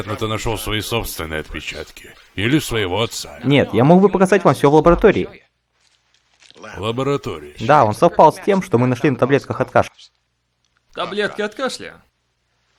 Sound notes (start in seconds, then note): none